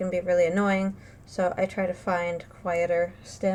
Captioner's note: none